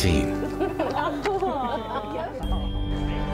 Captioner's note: people laughing; gentle music